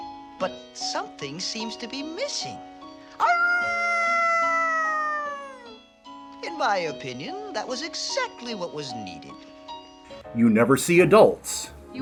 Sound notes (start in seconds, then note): 3.2 Snoopy howls into the night